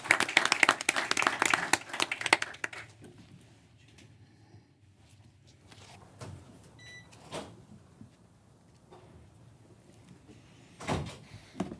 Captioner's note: applause